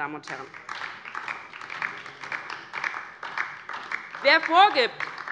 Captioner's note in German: Beifall DIE LINKE